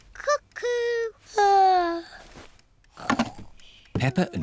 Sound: yawns

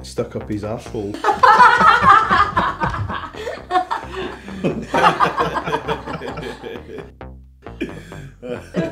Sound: laughter

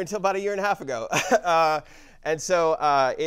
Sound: laugh

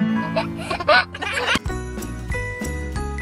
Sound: strums guitar; giggles; christmas jingle music

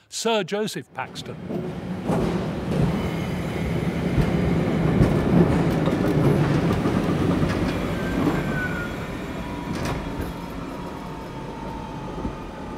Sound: train slowing

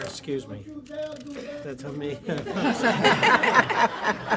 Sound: laughter

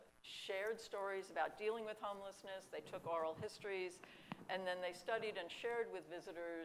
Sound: none

